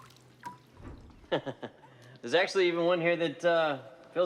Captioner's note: laughing